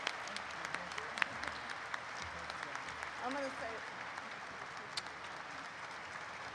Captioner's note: applause continues